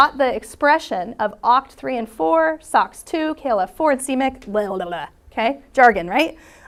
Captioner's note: blabbering